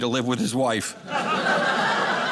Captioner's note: audience laughing